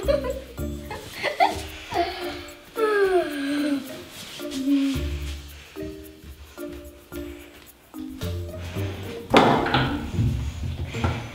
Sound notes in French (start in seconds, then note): 0.0 rires; 2.8 baillements